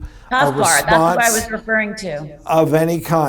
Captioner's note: scoffs